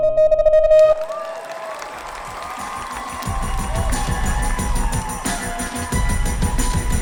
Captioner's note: audience clapping; intense music